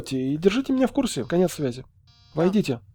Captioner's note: door buzzer